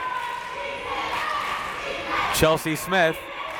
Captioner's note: crowd members chanting